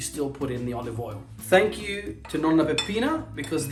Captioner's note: speaking Italian